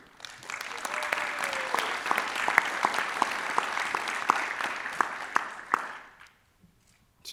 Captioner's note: applause